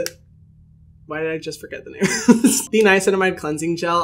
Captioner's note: laughing amusingly